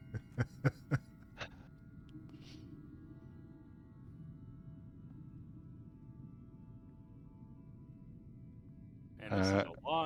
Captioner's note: laughter